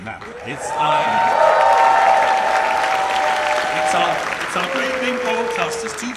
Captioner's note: audience applauds and cheers